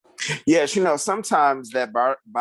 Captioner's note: chuckles